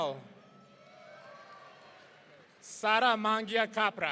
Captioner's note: audience cheering